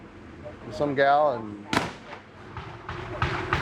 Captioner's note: gunshot